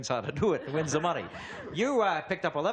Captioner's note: laughter